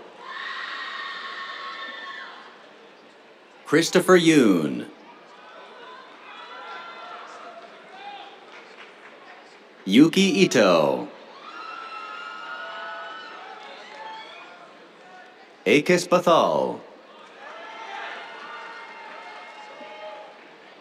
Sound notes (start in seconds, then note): 0.0 cheers; 6.2 cheers, applause; 10.5 cheers; 17.1 cheers